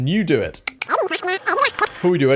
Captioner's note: high-pitched speech